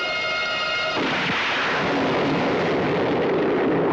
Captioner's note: gun fires